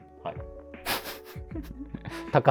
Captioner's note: laughing